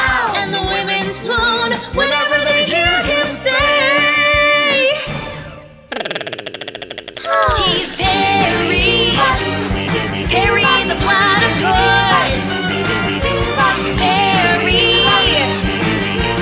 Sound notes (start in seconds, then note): 5.9 platypus sound; 6.8 woman swoons